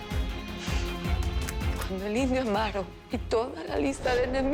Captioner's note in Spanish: Sonido al cargar el arma